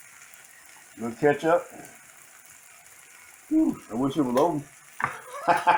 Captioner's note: laugh